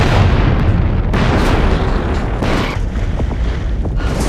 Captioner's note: explosion booming